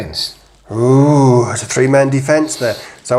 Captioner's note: none